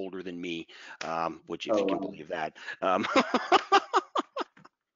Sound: laughs

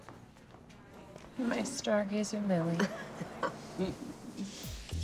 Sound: Cindy chuckles

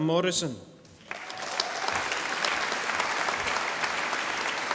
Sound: audience applauding

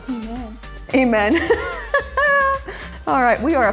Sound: laughs

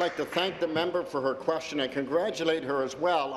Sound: applause

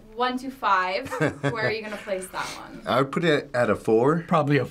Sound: chuckles

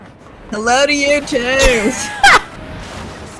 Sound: laughing

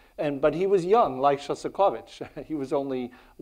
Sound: chuckles

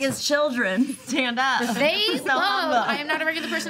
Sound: group laughing and talking over each other

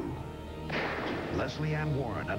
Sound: gunshot

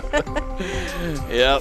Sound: laughing

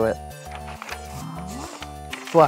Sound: pages rustling

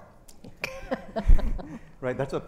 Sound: chuckles

